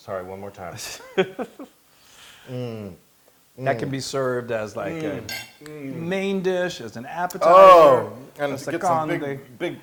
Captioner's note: laugh